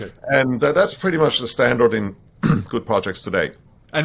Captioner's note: clears throat